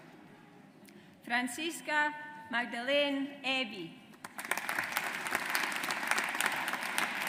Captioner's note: audience applauds